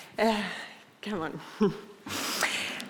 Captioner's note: exhales